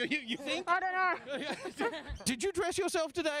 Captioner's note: laughing